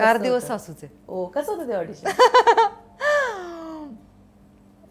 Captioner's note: Chuckles